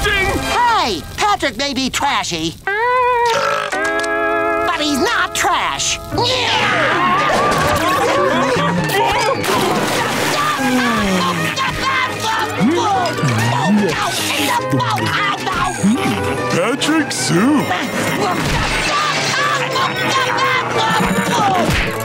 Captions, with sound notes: Hey, Patrick may be trashy... [burping] but he's not trash! [yelling] [yelling] Mmm, Patrick soup. [yelling]